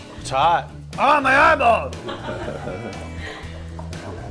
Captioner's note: laughter